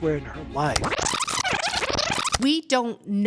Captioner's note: tape rewinding